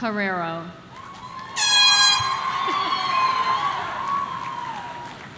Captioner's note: object blowing